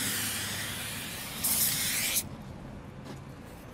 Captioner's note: hissing sound